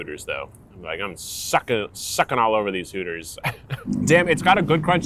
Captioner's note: chuckles